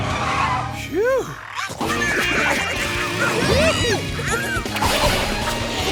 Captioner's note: squeaking